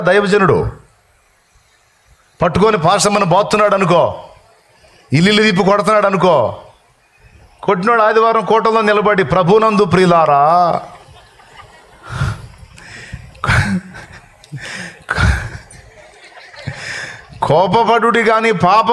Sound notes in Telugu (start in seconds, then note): 12.5 నవ్వు